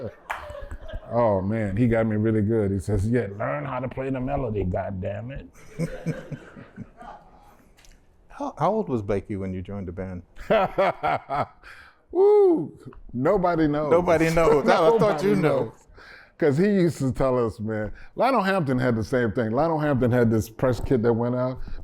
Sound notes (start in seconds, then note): 5.6 laughter; 10.4 laughter